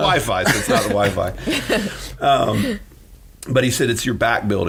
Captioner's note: laughing